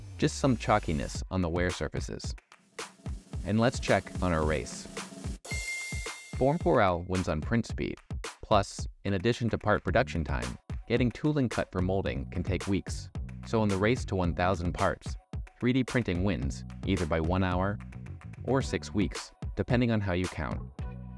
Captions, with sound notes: Just some chalkiness on the wear surfaces. And let's check on our race. [ding, ding] Form 4L wins on print speed. Plus, in addition to part production time, getting tooling cut for molding can take weeks. So in the race to 1000 parts, 3D printing wins, either by 1 hour or six weeks, depending on how you count